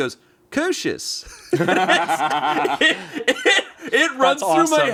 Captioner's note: everyone laughs